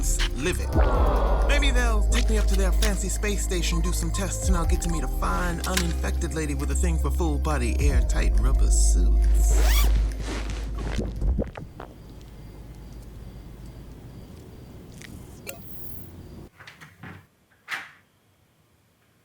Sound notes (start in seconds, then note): 0.2 digital HUD noises; 9.5 rubbing rubber noises; 10.6 digital warble; 10.6 radio program fades; 15.4 digital clicks; 16.5 door quietly opening